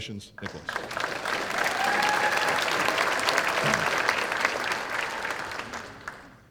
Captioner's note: applause